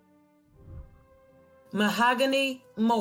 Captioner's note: whooshing